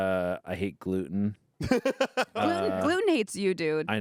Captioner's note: laughs